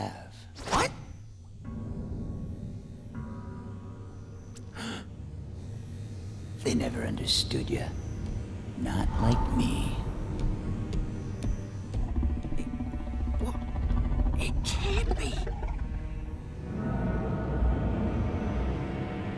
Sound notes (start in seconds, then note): 4.4 gasping